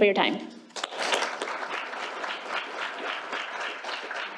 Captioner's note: applause